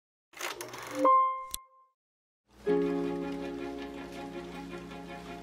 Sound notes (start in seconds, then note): 0.9 chimes ding; 2.6 happy music